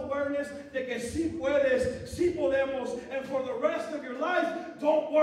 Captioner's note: non-english speech